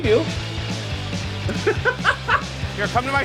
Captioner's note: laughs